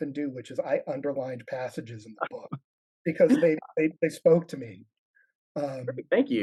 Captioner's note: laughs